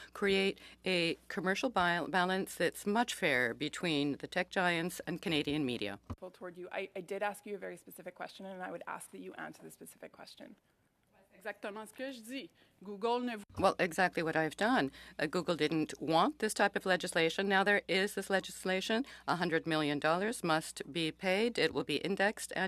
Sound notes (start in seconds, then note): 19.3 speaking French